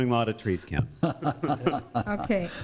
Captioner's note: a board member laughs